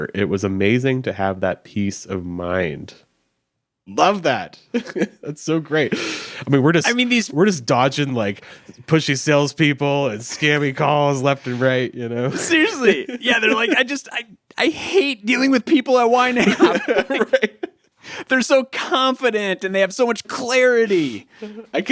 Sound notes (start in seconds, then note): 4.7 chuckles; 16.2 laughing